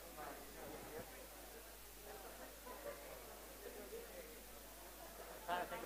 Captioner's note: background chatter